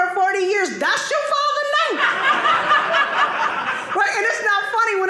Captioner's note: audience laughing